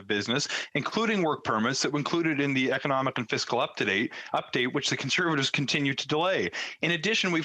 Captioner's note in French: voix de l'interprète